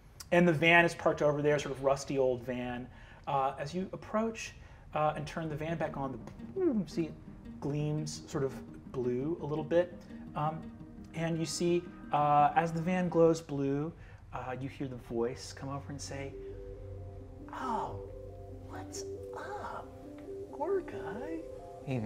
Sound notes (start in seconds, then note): 6.5 mimics energy pulsing; 19.7 chill relaxing music